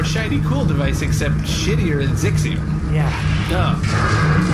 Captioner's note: crumbling noises